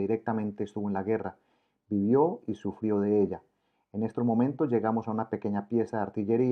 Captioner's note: Croatian